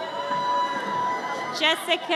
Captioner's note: audience cheers